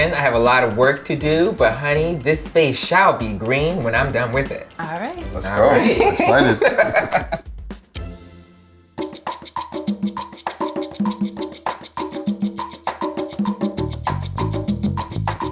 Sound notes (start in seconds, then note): 5.3 laughs; 9.0 upbeat percussion music